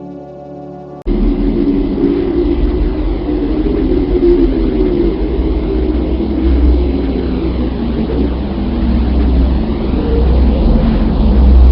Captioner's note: sound of Earth